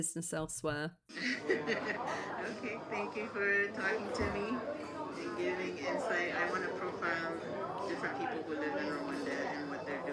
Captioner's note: laughing